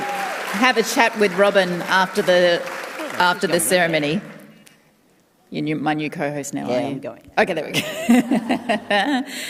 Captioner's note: cheering and applause